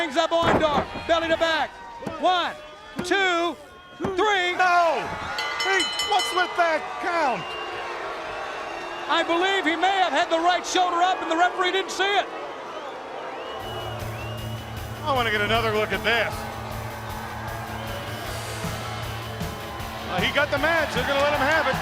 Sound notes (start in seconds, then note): 5.3 bell ringing; 7.5 crowd chatter; 13.1 crowd chatter